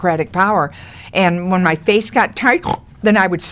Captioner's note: Lily snorts